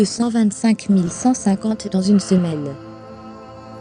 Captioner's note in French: respire fortement; musique instrumentale mystérieuse